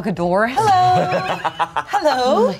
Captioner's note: everyone laughs